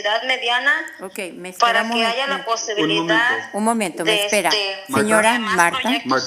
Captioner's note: speaking non-english